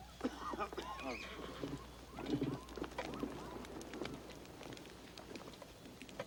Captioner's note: wolves howling; man coughs; horse whinnies